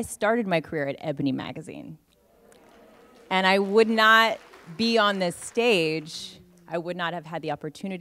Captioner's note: applause